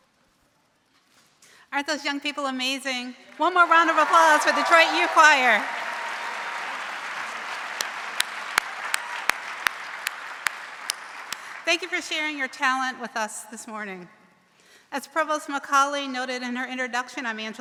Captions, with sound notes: - Aren't those young people amazing? One more round of applause for Detroit Youth Choir. (audience cheering) Thank you for sharing your talent with us this morning. As Provost McCauley noted in her introduction,